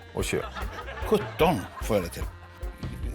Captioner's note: in Icelandic